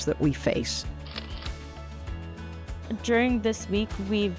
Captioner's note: camera shutter clicking